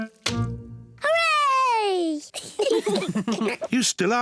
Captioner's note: kids and mummy pig laugh